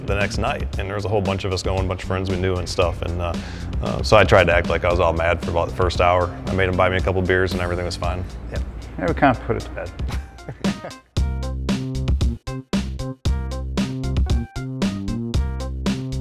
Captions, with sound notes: the next night, and there was a whole bunch of us going, a bunch of friends we knew and stuff. So I tried to act like I was all mad for about the first hour. I made him buy me a couple beers and everything was fine. - Yep, we kinda put it to bed. (chuckles) (upbeat music)